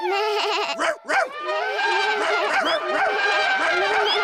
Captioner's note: all giggle; all shout and make noises